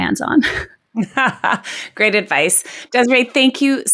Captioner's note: laughs